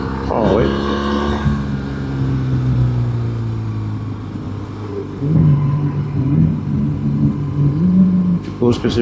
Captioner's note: engine